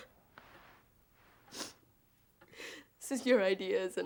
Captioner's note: sniffles